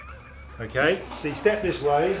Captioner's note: laughs